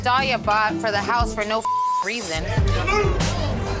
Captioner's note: beep; dramatic music